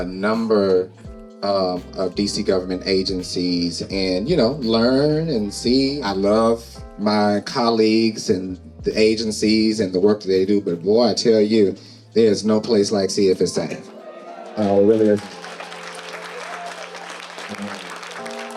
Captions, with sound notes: number of DC government agencies and, you know, learn and see. I love my colleagues and the agencies and the work that they do, but boy, I tell you, there's no place like CFSA. (audience applauding)